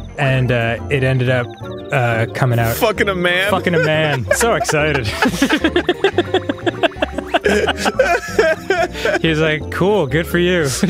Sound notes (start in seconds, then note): 3.4 laughing; 5.1 both laughing; 10.4 laughing